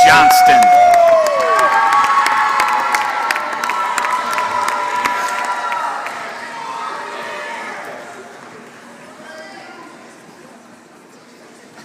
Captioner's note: applause